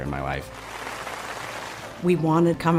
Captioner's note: audience applause